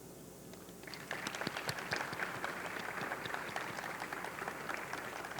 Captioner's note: audience clapping